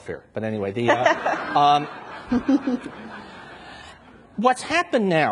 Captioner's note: and audience laughs